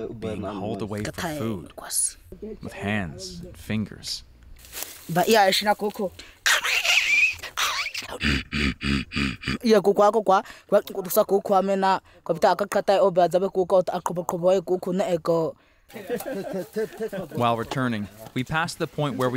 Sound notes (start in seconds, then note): 5.0 boy speaking foreign language; 6.5 boy screeching and grunting; 9.5 boy speaking foreign language